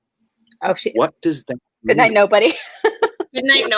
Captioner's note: laughs